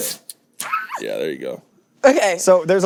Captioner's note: squeals